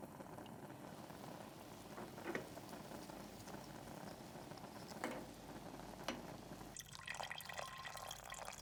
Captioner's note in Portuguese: água fervendo